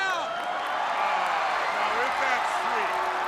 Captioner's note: crowd cheering